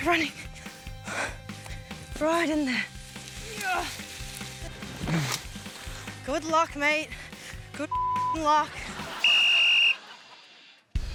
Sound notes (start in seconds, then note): 5.0 grunts; 9.2 whistle blows